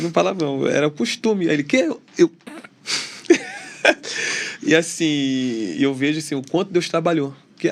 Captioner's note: risadas